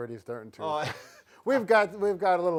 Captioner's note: laughing